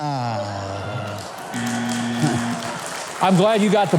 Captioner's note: applause